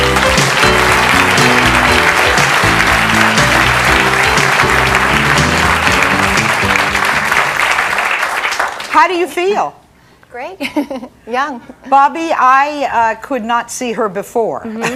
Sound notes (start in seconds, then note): 0.0 audience clapping; 0.0 jazzy music; 10.6 chuckling